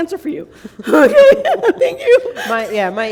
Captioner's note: laughter